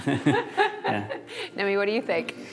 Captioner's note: laughter